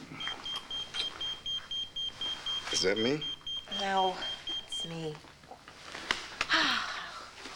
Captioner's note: pager beeps